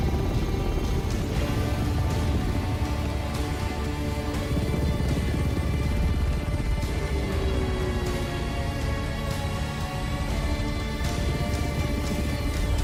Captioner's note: blades whirring